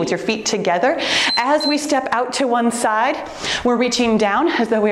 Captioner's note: timer beeps